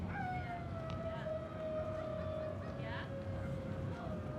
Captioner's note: dogs howling